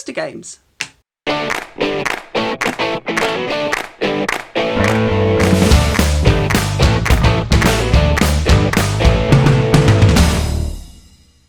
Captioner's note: claps